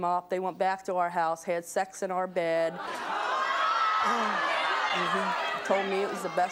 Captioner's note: audience outrage